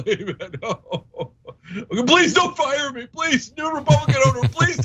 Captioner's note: laugh